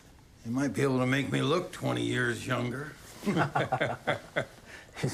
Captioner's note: laughs